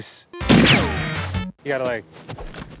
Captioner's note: gun shot